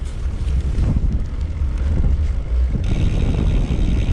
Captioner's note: wind whooshing